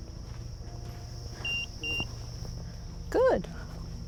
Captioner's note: EMF beeping